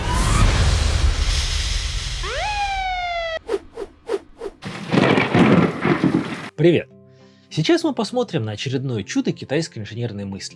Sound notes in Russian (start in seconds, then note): 2.2 Звук сирены; 4.7 Гром и молния